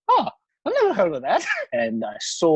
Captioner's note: chuckles